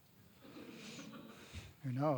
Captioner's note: audience laughing